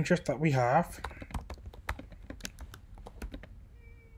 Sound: typing

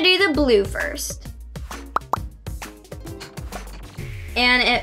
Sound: popping

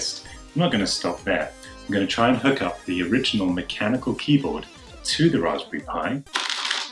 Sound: retro typing noise

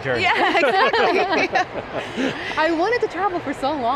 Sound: laughing; laughs

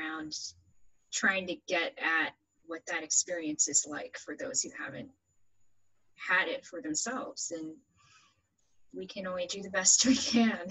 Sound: laughs

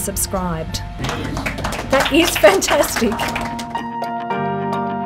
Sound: applause

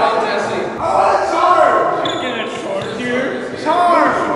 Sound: yelling

